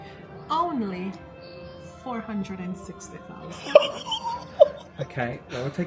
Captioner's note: laughs